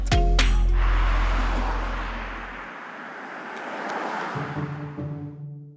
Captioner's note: wheels whooshing; intriguing music